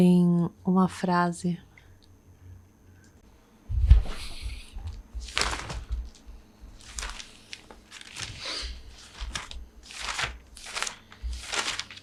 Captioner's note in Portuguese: barulho de papel, folheando o caderno, procurando a frase